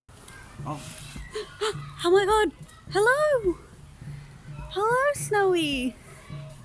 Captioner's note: gasps; meerkat humming, birds chirping, people chattering